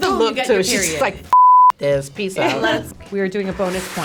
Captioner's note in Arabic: صافرة